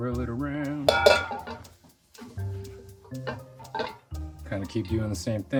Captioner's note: wok clunking